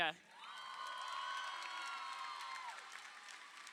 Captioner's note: crowd cheering